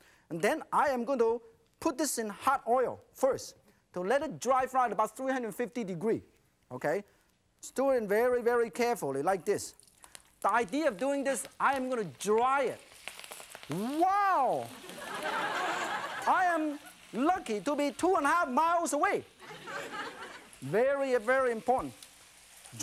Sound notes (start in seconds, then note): 12.0 sizzles; 14.8 laughter; 15.0 crowd; 19.4 laughter; 19.5 crowd